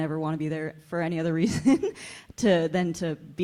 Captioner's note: chuckles